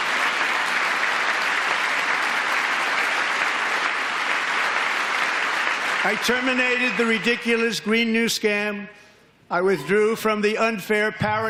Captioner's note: applause